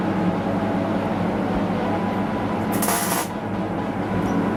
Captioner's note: metal sparking